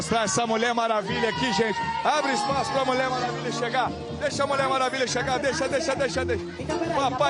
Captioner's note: gritos